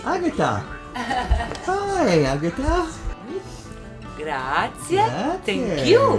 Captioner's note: laughter